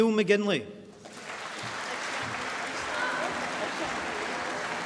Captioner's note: applause